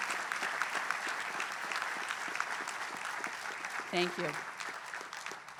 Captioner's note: applause